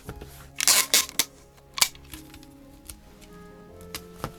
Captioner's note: tape pulling and ripping